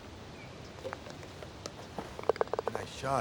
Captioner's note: ball rattles